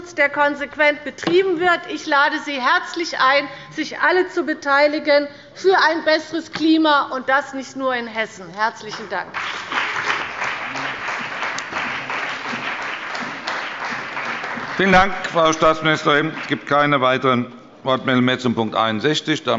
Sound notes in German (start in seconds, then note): 9.3 Beifall bei Abgeordneten der CDU und bei dem BÜNDNIS 90/DIE GRÜNEN